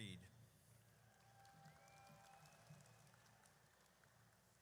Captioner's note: audience cheers